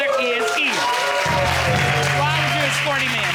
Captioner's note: audience cheering